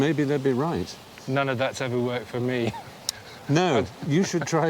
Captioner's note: laughing